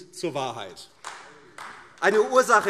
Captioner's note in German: Beifall AfD - Zurufe: Oh!